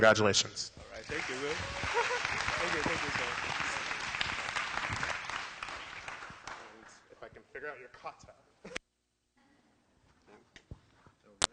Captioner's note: applause and background discussion